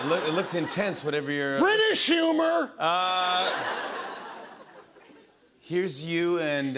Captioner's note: laughter